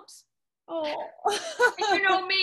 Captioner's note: laughs